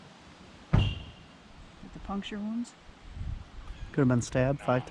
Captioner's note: none